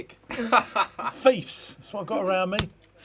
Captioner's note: man laughs